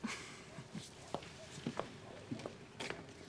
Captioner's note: chuckles